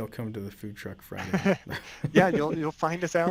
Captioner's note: laughing